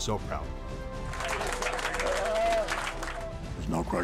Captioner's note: everyone clapping